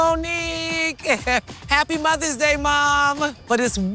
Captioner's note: laughs